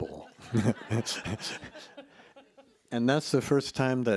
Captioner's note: everyone laughs